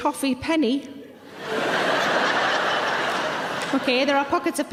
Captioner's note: audience laughing